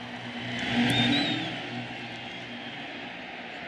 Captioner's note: whistle blows